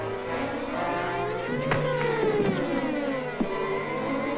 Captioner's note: thud